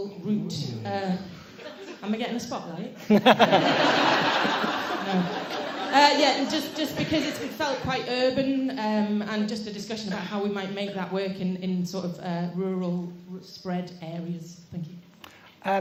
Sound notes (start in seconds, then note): 3.0 laughter